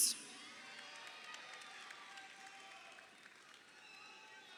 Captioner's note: crowd cheering